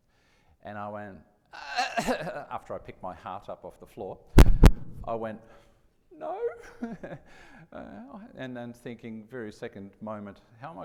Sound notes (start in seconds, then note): 1.6 coughs; 4.3 mic thuds